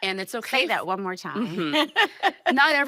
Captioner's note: laughing